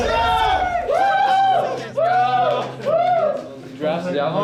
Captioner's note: teammates cheering